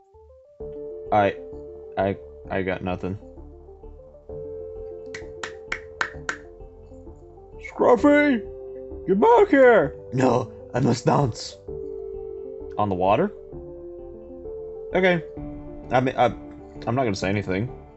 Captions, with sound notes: I-- I got nothing [Clapping] 'Scruffy get back here' 'No! I must dance' On the water? Okay. I mean, I'm not gonna say anything.